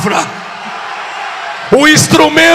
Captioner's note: applause